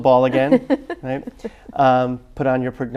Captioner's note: laughs